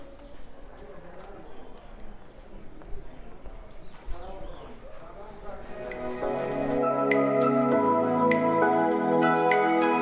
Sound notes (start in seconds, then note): 0.0 crowd noise; 0.5 birds chirping